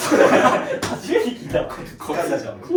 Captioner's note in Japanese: 笑い